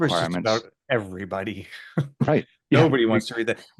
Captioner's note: laughs